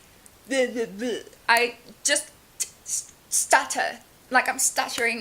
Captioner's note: stutters